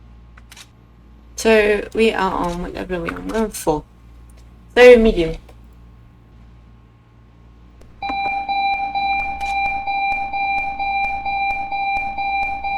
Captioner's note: alarm silenced